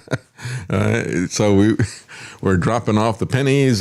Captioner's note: laughs